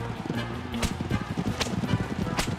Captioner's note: whipping noise